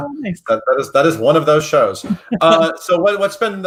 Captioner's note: laughs